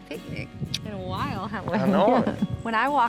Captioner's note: smooch